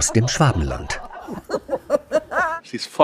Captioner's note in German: Lachen